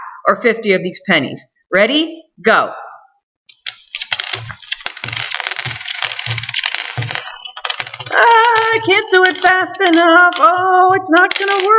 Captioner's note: timer goes off